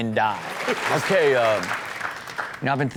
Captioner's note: audience clap